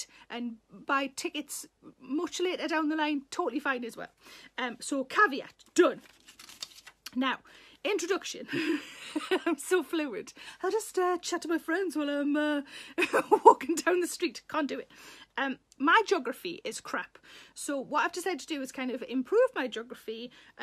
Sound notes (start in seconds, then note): 5.5 papers rustling; 8.4 Sarah laughs; 12.9 Sarah laughs